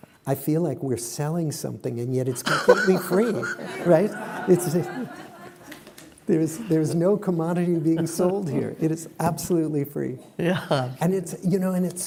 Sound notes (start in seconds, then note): 4.5 laughter